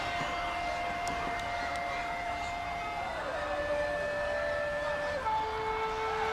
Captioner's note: crowd chatter